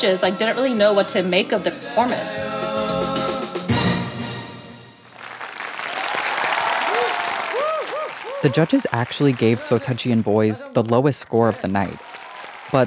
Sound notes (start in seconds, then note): 5.0 audience applauding